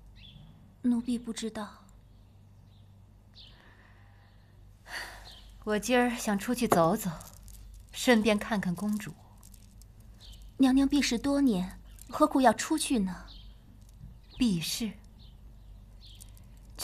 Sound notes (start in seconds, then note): 4.9 sigh